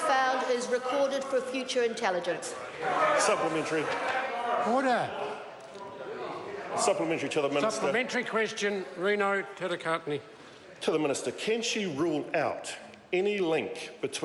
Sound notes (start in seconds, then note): 4.5 members talk loudly